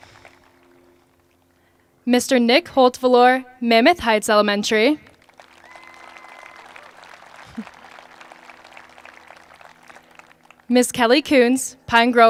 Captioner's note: applause